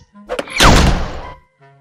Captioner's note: slams door